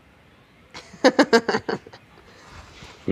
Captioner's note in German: Lachen